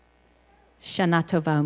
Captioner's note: in Hebrew